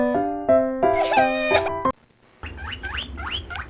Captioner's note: cry